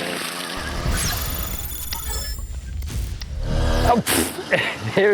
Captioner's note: logo thudding